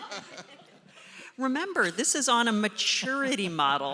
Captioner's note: laughter